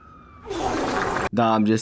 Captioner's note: thick wet diarrhea noise